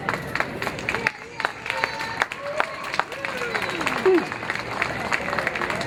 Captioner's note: audience cheering